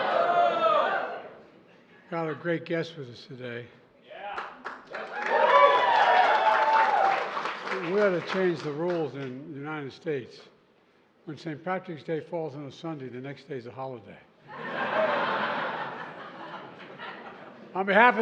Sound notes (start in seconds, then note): 4.3 applause; 14.4 laughter